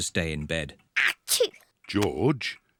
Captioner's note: sneezes